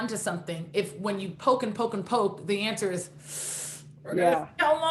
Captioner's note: hissing